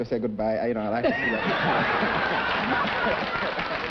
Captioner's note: chuckling; applause